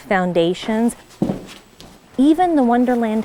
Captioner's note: footsteps